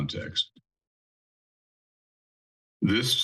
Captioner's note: pause